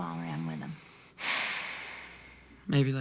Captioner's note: Bobby sighs